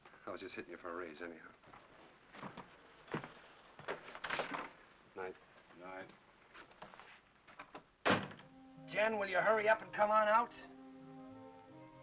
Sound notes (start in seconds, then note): 3.8 door opens; 8.0 door closes